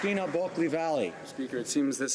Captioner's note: applause